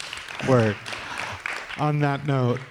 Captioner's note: applause